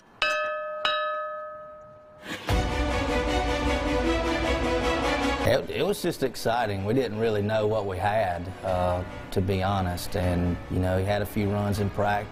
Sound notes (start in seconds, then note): 2.6 bell dinging; 5.4 intense music